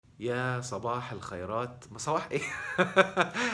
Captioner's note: laughs!